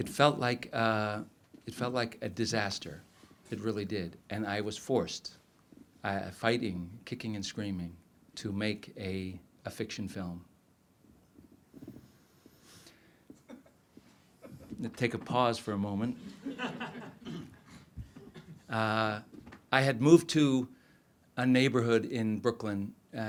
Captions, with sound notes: It felt like a disaster, it really did, and I was forced, fighting, kicking and screaming, to make a fiction film. Take a pause for a moment. (audience laughs) I had moved to a neighborhood in Brooklyn